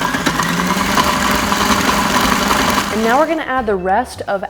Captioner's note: mixer whirring